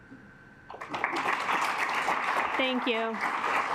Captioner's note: assembly clapping